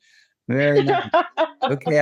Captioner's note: laughing